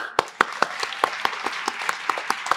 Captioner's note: applause